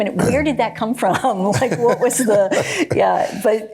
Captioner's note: Johnson laughs